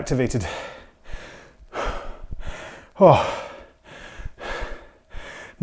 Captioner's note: breathing heavily